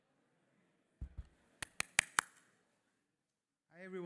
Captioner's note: microphone thumps